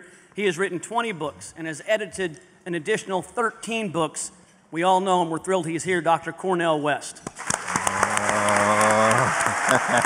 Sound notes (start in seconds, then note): 7.3 applause; 7.4 laughter